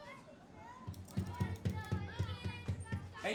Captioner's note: knocking on the window